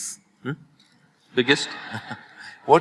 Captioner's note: laughter